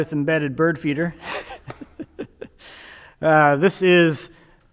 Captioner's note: laughing